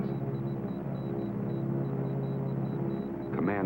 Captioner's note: man On Radio; telegraph machine beeping